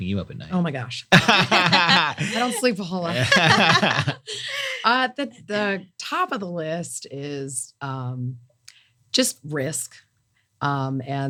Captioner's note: laugh